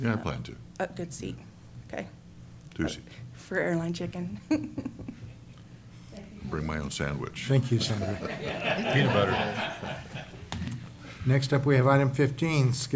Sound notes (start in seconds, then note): 4.4 chuckles; 10.1 laughter